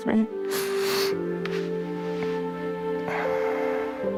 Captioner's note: sobbing; somber music